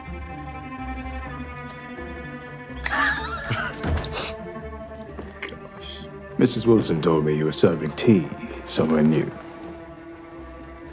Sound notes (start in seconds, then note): 0.2 tense music; 2.8 both laughing